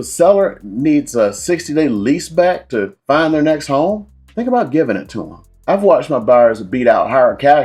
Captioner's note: poof